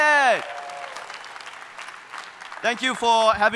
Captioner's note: audience applauding